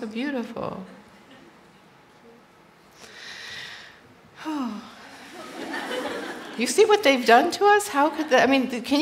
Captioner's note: sigh